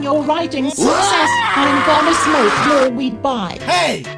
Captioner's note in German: schreit